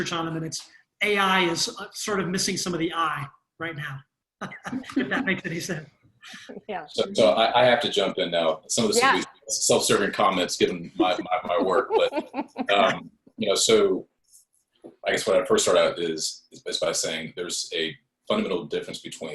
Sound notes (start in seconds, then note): 4.4 chuckles; 10.8 panel laughs